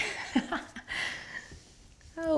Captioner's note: laughing